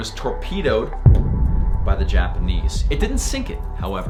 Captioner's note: exploding